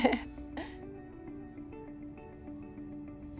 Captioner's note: laughs